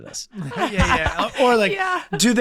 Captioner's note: Glenn, Megan laughing